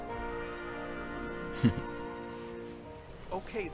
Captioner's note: sniggers